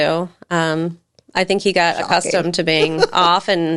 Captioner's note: laughs